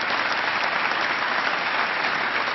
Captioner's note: applause